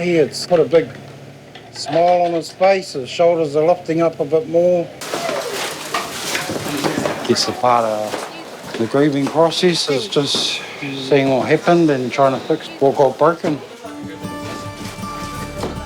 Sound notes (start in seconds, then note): 9.8 sighs